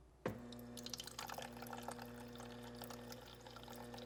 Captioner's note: water filling